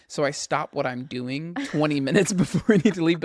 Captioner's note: laughs